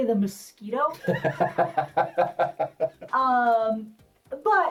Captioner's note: laughs